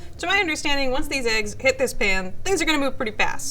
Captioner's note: none